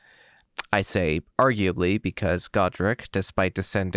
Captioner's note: lip smack